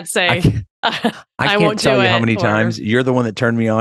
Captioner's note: laughs